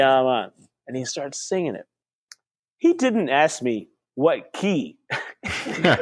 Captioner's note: laughter